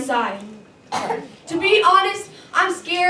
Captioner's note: child Coughs, Audience Member "Wow."